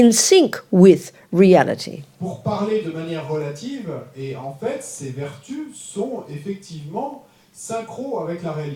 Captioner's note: French